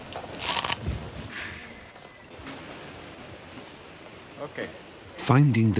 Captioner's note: food crunching